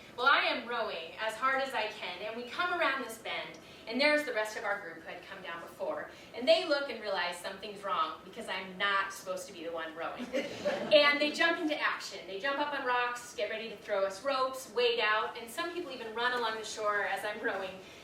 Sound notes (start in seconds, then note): 10.3 audience laughs